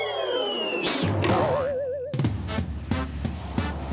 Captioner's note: whistling; boing; jazzy music